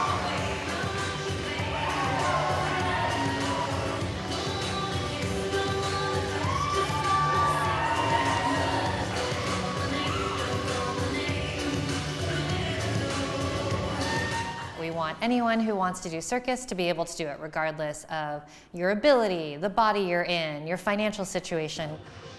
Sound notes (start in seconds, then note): 0.7 pop music; 4.3 crowd cheering